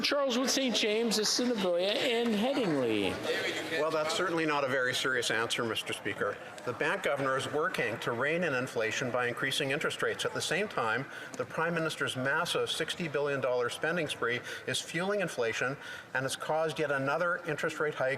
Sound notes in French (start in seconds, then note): 4.6 voix de l'interprète